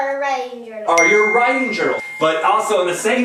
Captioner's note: ding